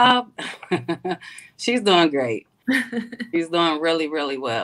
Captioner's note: laughs